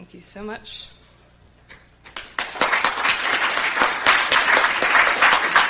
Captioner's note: crowd applauding